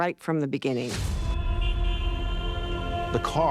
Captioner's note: traffic honking